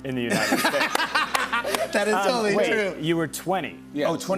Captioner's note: laughter